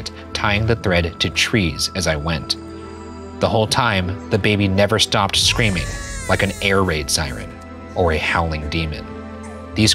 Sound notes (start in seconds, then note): 5.4 baby crying